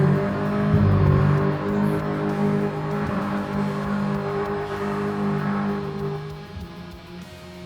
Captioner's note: sounds like a snowmobile hillclimb competition; engine revving